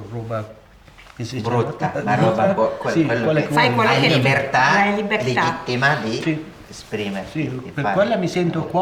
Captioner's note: chatter